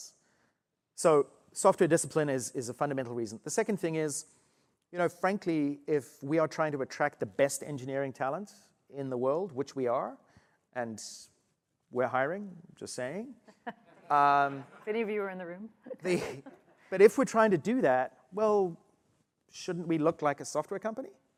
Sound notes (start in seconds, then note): 15.8 laughter